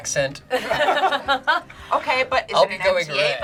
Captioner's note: group laughs